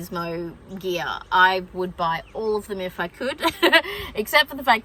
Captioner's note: giggles